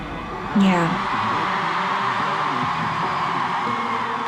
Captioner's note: cheering continues